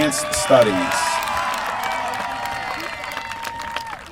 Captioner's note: applause